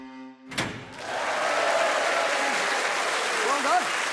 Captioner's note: cheering